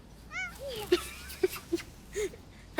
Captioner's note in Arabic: مواء قطة; يضحك